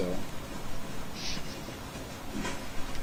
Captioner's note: chuckling